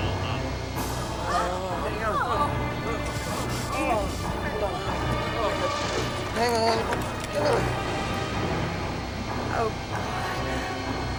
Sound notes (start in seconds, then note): 3.6 people groaning; 11.0 intense music